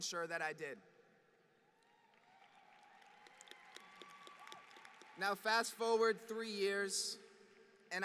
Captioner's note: applause